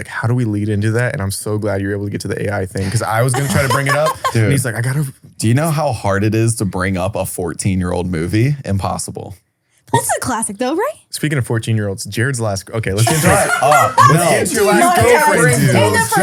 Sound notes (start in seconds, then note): 13.0 laughs